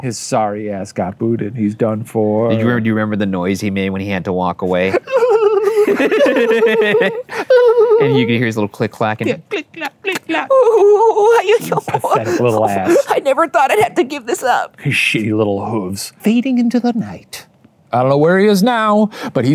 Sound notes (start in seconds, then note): 4.7 laughs; 4.8 imitates sobbing; 9.9 imitates sobbing